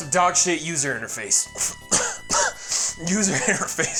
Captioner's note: coughing